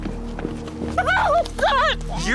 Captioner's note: screaming